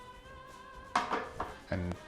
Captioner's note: clanging